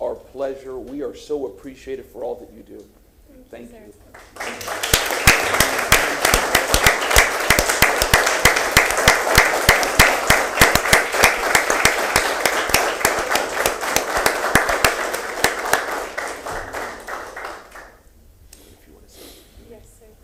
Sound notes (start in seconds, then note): 8.8 applause